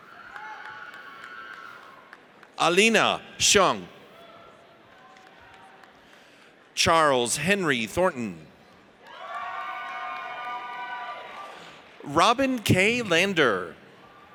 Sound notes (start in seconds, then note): 0.1 audience cheers; 8.9 audience cheers; 14.1 audience cheers